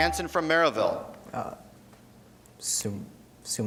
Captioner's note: beeping